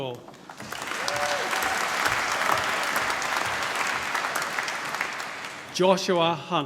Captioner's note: applause